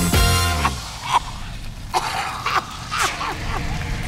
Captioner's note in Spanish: música dinámica; mujer tose